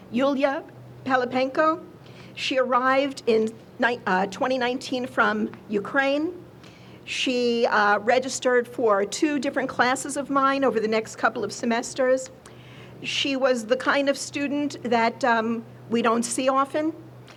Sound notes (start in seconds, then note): none